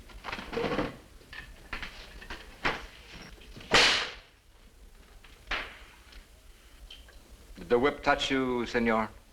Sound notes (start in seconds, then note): 3.7 whip cracking